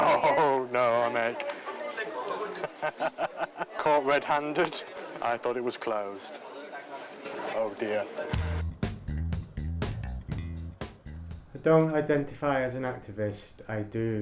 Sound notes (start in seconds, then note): 0.0 laughs; 2.4 laughter; 8.3 funky music